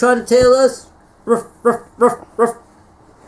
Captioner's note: ruff ruff ruff ruff